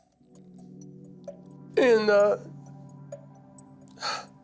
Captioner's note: sniffling